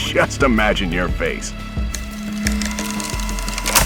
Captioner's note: tape stops